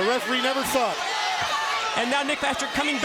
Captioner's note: crowd cheering